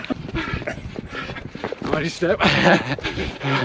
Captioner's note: panting